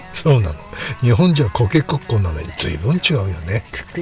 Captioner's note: laughs